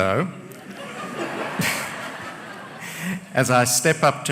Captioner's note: laughter